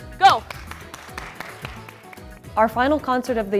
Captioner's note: clapping